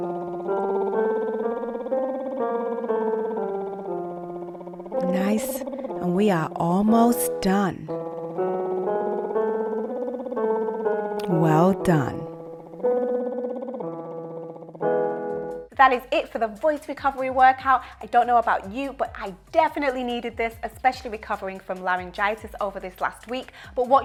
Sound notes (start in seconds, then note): 0.0 lips trilling; 0.2 piano scales continue; 8.0 piano scales continue; 9.0 lips trilling